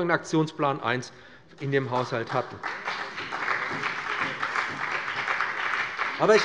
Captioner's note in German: Beifall bei dem BÜNDNIS 90/DIE GRÜNEN und der CDU